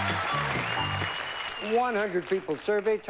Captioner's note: theme music plays; cheering